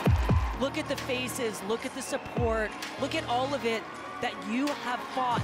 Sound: cheers and Applause

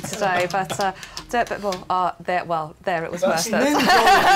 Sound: stammers

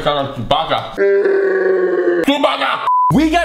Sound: roaring; beep

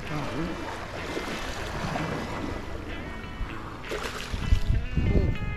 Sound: fish splashing around

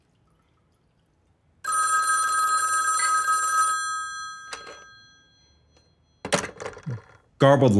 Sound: telephone rings once the receiver is picked up and hung up

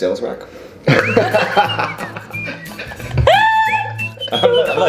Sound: everybody laughing

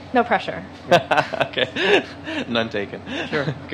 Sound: laughing

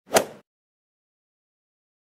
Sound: swoosh

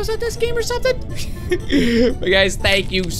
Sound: laughs

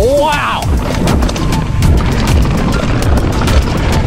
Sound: bike clatters; upbeat music continues

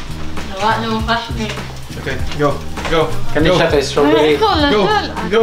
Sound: speaks in foreign language

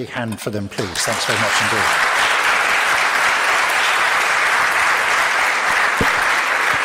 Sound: audience claps

